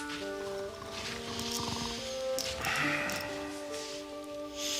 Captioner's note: snoring